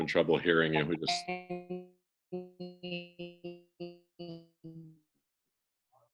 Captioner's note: continuous beeping sound